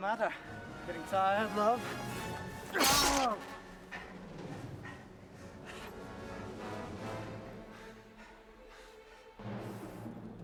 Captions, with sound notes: - What's the matter? Getting tired, love? (dagger slices loudly) - Ow! (dramatic music)